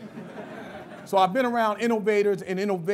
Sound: laughter

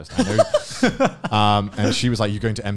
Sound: laughing

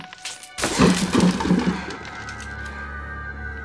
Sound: door crashes

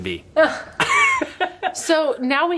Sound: both laughing

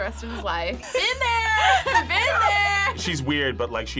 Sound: laughs

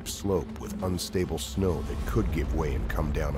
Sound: voiceover

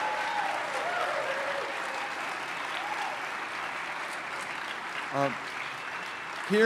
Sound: applause

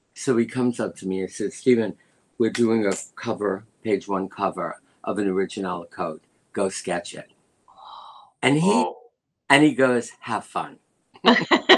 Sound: laughter

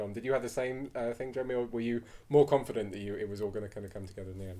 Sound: none

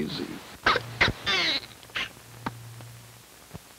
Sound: Daisy sputters, wilts

